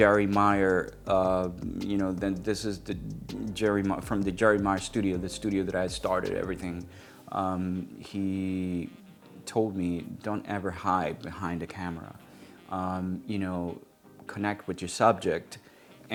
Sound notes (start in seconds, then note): 1.1 stammers